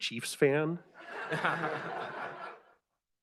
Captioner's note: laughter